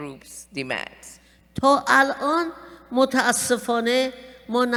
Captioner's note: speaking persian